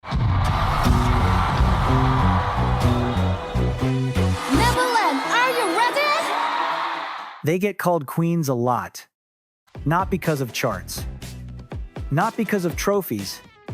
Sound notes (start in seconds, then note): 6.5 cheering